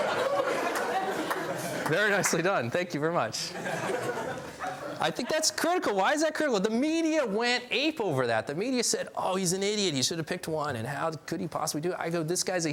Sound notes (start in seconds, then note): 0.0 laughs; 3.4 laughs